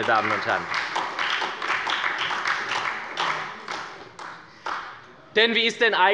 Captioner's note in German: Beifall bei der SPD und der FDP